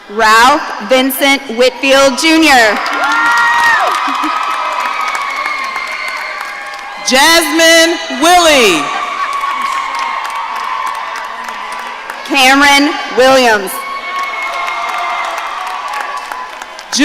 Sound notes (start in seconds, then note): 2.9 audience cheering; 8.9 audience cheering